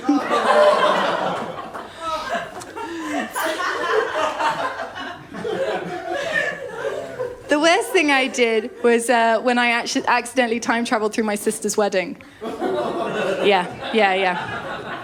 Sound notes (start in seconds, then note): 0.0 laughter & groans; 12.4 laughter